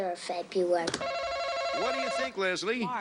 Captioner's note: buzzer buzzes